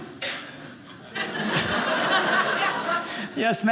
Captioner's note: audience laughing